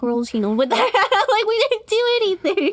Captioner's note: laughs